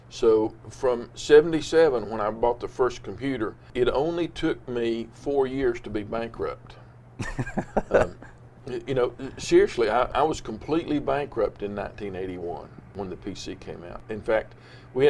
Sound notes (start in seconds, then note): 7.2 laughs